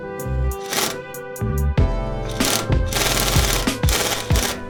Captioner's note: drill whirring